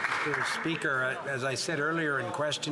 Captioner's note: some Applause